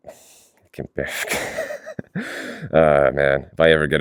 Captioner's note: nervous chuckle